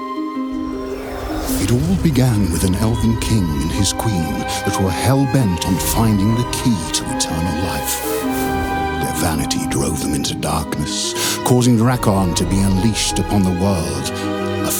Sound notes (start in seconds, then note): 0.8 air whooshes; 8.1 mystical music continues